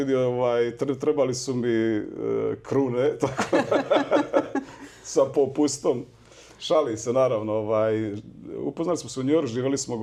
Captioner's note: laughs